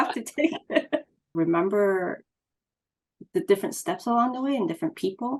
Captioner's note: laughs